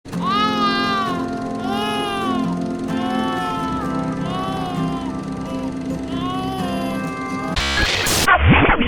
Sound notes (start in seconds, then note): 0.1 baby crying